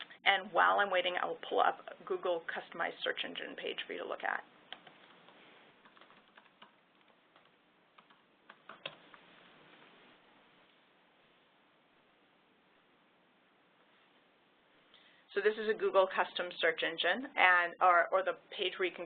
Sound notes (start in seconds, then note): 5.8 typing